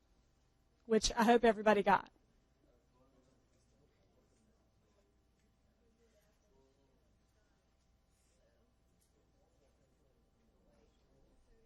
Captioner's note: long pause